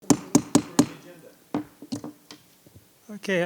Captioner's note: gavel thudding